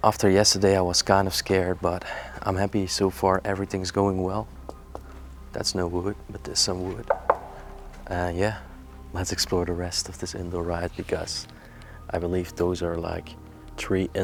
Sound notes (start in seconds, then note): 7.0 knocking